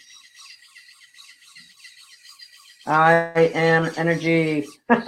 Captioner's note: machine whirring; laughing